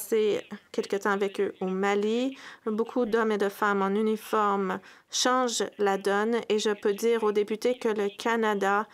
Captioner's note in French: voix de l'interprète